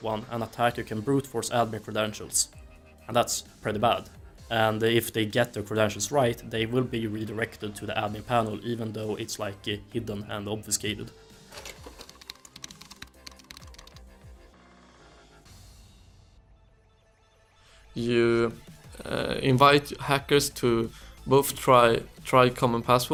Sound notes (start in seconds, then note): 11.6 keyboard clicks